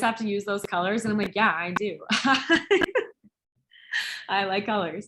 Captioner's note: laughs